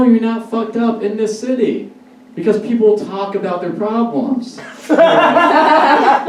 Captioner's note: audience Laughs